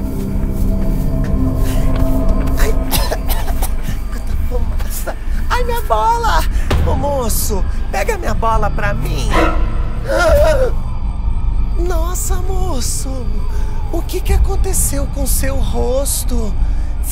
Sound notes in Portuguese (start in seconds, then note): 0.4 música de suspense; 2.6 tosse